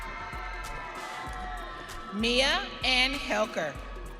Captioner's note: audience cheering